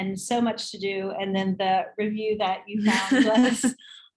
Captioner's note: laughs